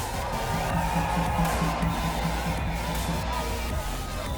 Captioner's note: crowd cheering